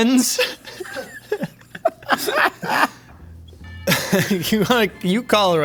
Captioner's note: laughing